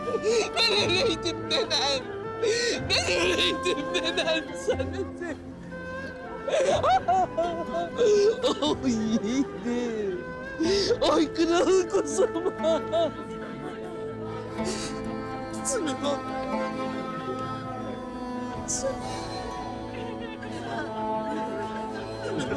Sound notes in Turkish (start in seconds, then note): 6.2 Hayme ağlıyor